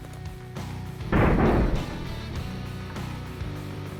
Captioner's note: gunshot